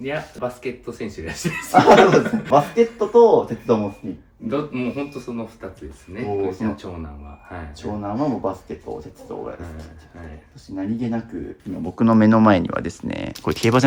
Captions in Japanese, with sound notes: いや、バスケット選手です。 [笑い] あ、そうですね。バスケットと鉄もスティ ど、もう本当その2 つですね。長男ははい。 長男はもうバスケットです。 そして何気なく今僕の目の前にはですね、これ競馬じゃないですか?